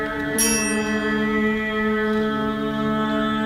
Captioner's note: chime